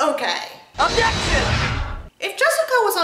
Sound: Phoenix Wright Objection Sound

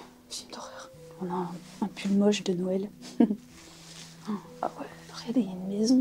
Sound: laughing

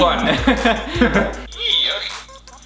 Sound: laughs

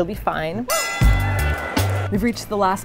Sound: loud bell ringing

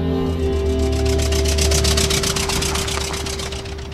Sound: truck driving

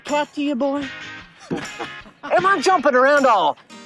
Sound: laughter

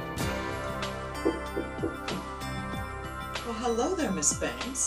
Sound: knocking

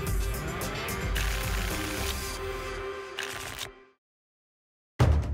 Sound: tickets shuffling

